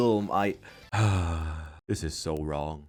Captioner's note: sigh